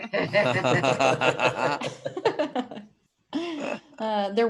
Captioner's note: laughing